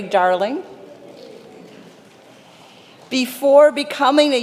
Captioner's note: congregation applauding